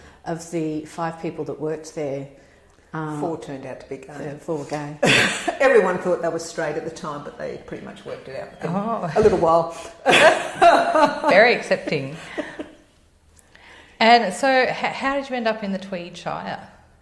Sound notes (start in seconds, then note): 4.8 laugh; 10.0 laugh